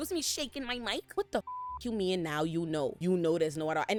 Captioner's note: beep